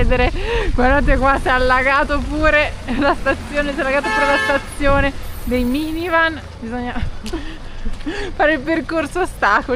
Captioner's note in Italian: risate